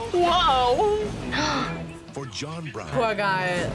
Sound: gasps

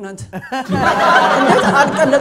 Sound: laughter

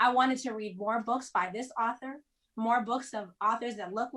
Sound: none

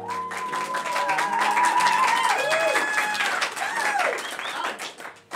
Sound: cheering and clapping

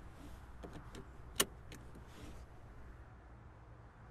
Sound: seatbelt clicks in the silence of the car

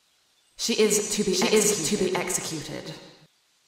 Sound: Sol’s voice echoes in her head

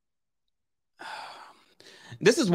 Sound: sighing

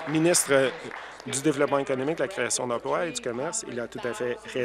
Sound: applause

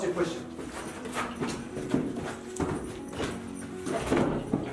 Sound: scuffling

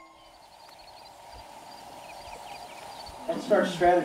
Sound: chirping

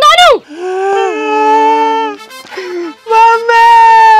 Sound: start crying

